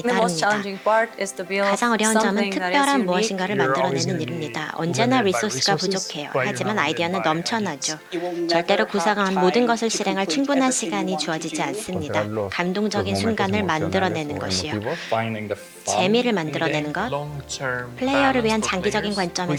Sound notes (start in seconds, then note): 11.9 non-english speech